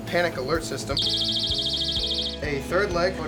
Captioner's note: alarm ringing